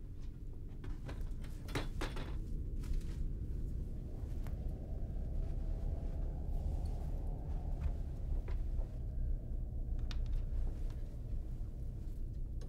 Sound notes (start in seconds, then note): 1.3 clanging; 1.3 suspenseful tones